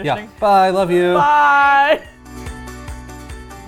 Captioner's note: laughs